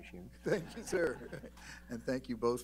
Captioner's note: laughter